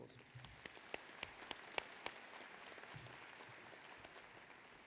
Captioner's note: applause